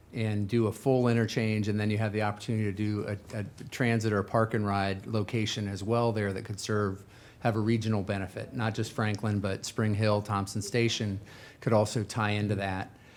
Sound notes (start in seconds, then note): none